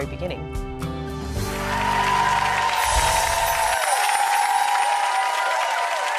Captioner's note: audience cheering and clapping